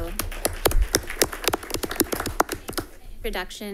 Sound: audience applauding

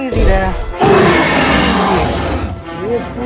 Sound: tyrannosaur Growl Sounds

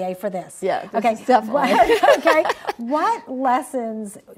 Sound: laughs

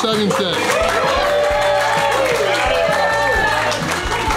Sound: crowd cheering

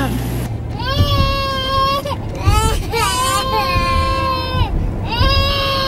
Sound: crying

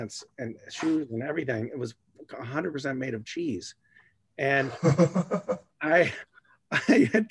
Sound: laughter

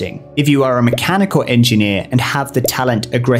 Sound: bubble pops

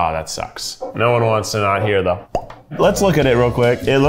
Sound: mouth pops

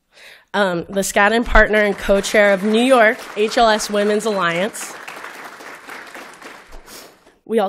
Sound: applause

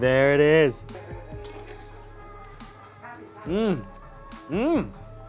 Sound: slurping

